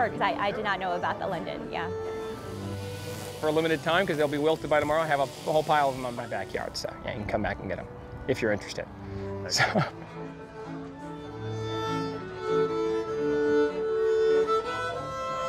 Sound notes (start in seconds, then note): 9.5 laughs; 10.7 violin music